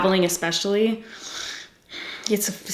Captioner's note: sighs